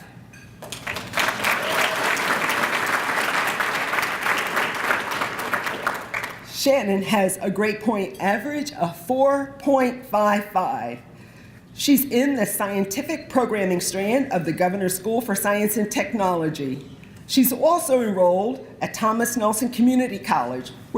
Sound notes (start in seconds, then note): 0.6 applause